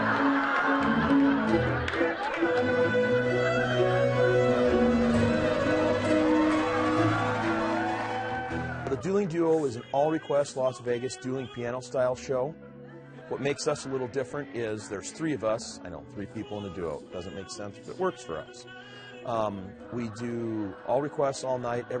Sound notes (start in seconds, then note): 0.0 laughing; 7.1 cheering